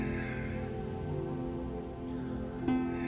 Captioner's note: breathing